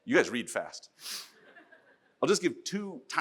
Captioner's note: audience laughs